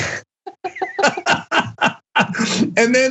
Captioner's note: laugh